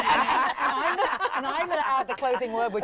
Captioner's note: laughter